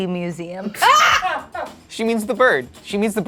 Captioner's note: shrieking; laughing